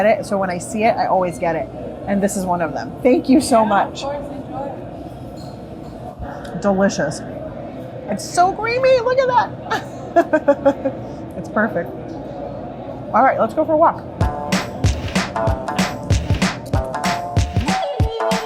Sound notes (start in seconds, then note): 9.7 laughing; 14.2 upbeat music